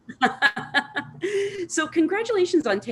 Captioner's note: laughing